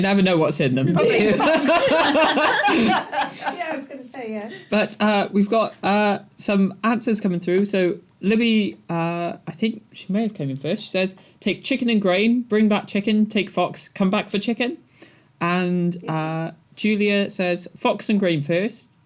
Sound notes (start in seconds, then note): 0.9 laughter